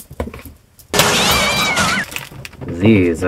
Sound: glass shattering, cat screeching

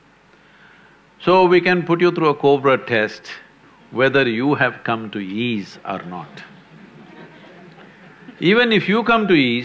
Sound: few laugh

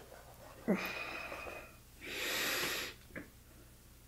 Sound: he exhales

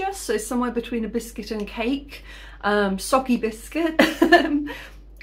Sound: laughing

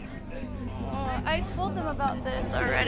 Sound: groans

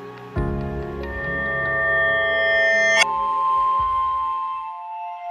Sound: electronic tones

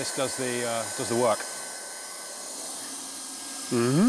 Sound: blow torch whistling

